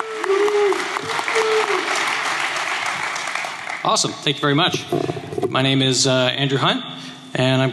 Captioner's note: applause